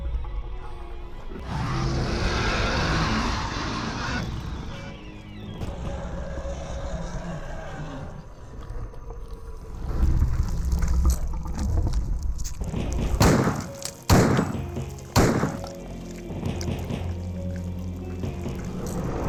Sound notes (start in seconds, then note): 0.0 dramatic music; 1.3 growls; 4.3 dramatic music; 5.7 growls; 6.7 dramatic music